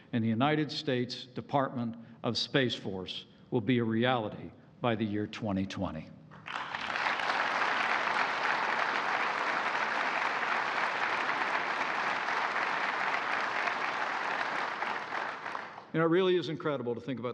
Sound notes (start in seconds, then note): 6.4 applause